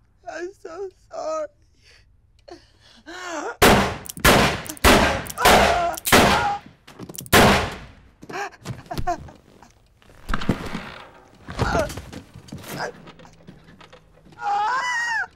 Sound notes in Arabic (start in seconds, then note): 3.6 إطلاق النار